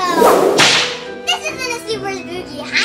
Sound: assistant slapping

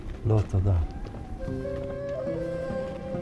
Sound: speaking in Hebrew

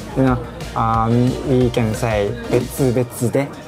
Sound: speaking in Japanese

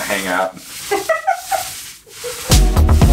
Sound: laughing

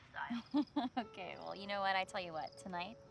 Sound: chuckling

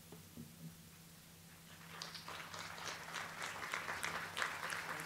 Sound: audience clapping

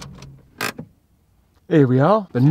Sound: handbrake engaged

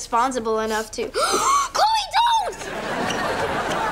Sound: gasping

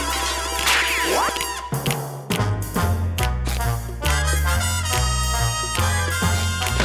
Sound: snapping; snapping

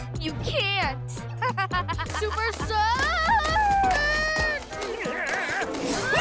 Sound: laughter; sounding wobbly

